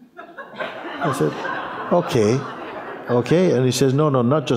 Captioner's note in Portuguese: risos